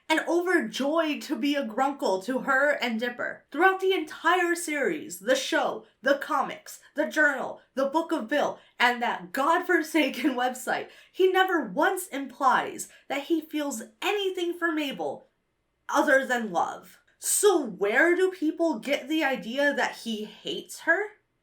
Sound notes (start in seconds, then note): none